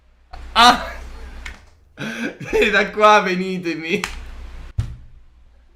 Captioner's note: laughing